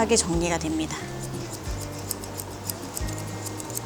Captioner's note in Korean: 가위질 소리